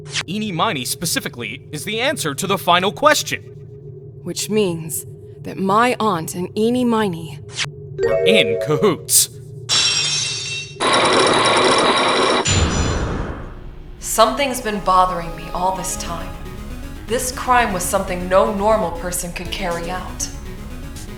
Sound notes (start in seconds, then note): 9.8 lock shatters!; 10.8 chains grinding!